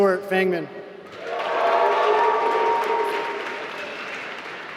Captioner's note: applause